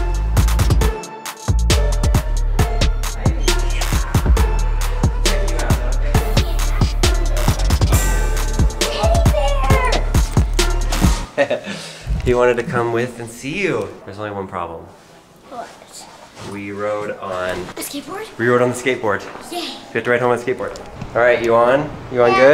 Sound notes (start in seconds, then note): 0.1 upbeat hip hop music; 11.1 chuckling